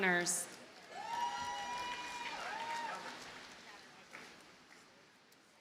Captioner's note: audience cheers and applauds